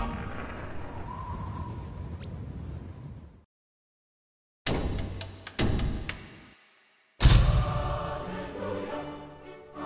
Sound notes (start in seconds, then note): 5.0 frantic switch flicking; 7.1 stage light ignites